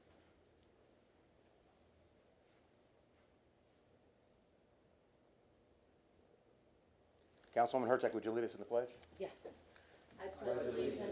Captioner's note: moment of silence